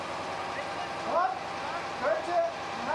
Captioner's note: snippets of conversation